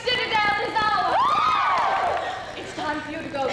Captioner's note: women cheer